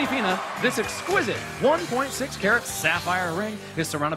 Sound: cheers and applause

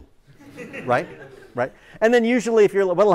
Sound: laughter

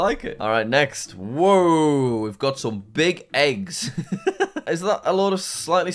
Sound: laughs

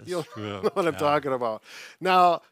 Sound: chuckles

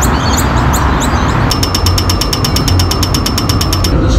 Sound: birds are whispering; pedestrian crossing beeping

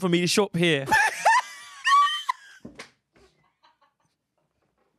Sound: laughs

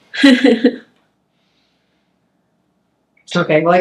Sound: laughs

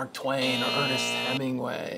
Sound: alarm buzzing

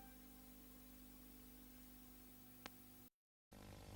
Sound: VHS static

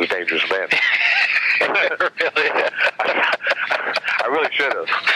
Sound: both laugh

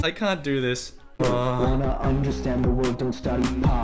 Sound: groans

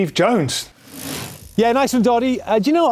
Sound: quick rattle

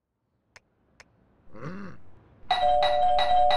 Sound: grunts questioningly; groans; rings doorbell urgently

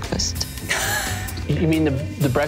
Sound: laughing

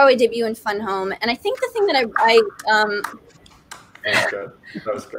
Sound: clapping

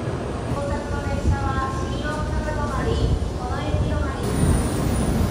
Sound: overhead train announcement in Japanese

